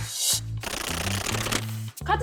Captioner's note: cards shuffling